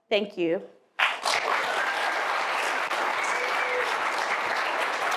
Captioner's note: applause